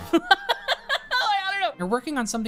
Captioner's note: laughing